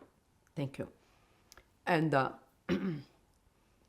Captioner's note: clears throat